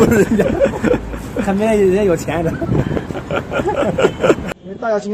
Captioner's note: haha